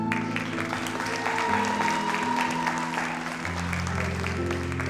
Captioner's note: audience applauds